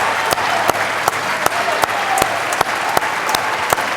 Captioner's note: applause